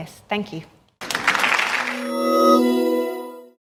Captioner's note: applause